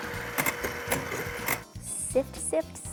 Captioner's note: mixer whirring